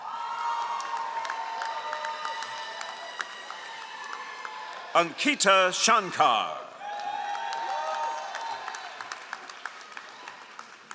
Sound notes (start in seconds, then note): 0.0 all applauding